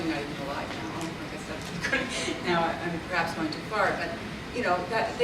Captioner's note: laughs